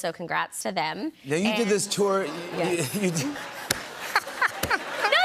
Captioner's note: laughter